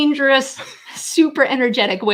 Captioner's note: laughing